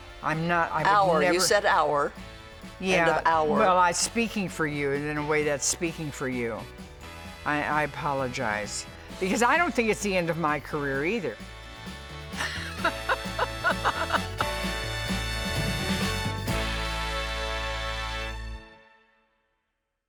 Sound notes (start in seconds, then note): 12.4 both laugh; 15.5 bright music